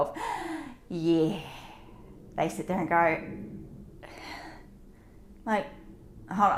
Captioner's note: deep breath; exhales